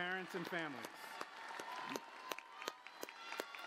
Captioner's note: applause